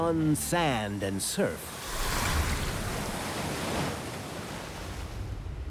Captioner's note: water splashing